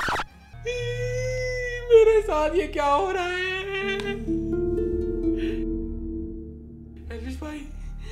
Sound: crying

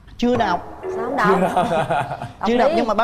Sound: laughs

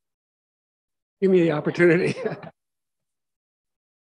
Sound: laughs

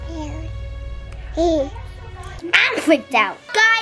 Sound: babbling and giggling

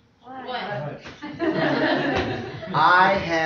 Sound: laughter

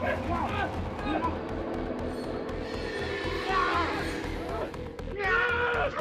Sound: snarling; yelling

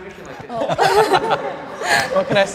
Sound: group laughs

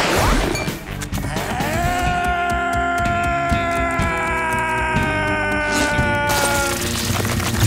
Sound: screaming

